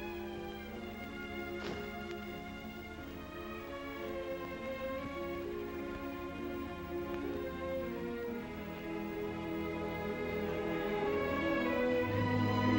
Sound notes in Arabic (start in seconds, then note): 1.2 تنزلق الستائر; 3.3 موسيقى عاطفية; 12.4 موسيقى درامية